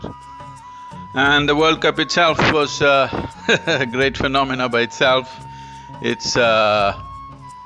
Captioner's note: laughs